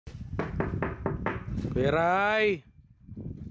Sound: knocking

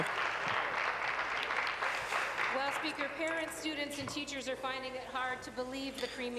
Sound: applause

